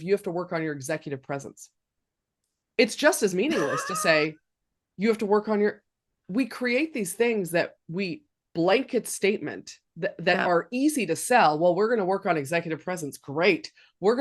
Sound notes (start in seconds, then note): 3.4 laughing